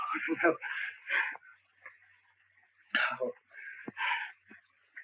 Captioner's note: Wilson gasping